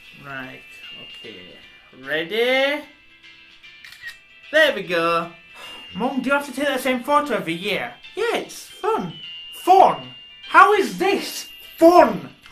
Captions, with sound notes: Right... okay... ready? *camera snap sound* There we go! *sigh* Mum, do you have to take that same photo every year? Yeah, It's fun! Fun?! How is this fun?!